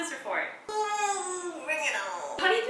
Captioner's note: groans